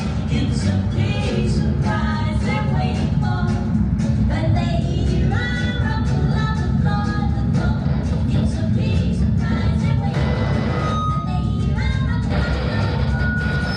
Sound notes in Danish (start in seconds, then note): 10.0 højt lyd-feedback; 10.2 radioknitren